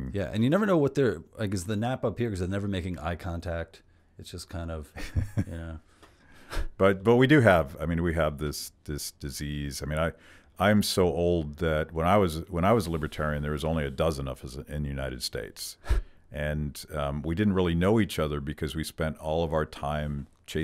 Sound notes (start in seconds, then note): 5.3 laughs